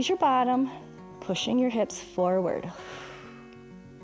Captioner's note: exhales